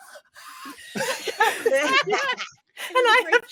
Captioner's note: cast laughing